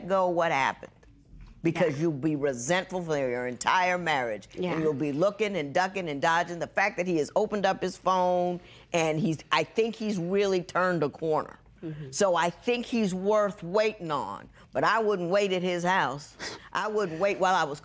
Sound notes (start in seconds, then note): none